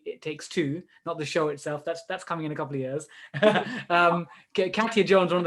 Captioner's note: laughs